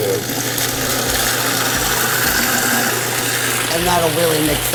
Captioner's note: food processor grinding continues